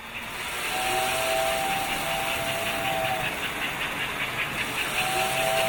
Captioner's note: train whistles